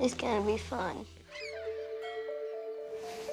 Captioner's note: gulls calling